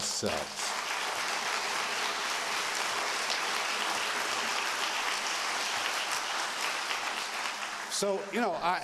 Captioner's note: applause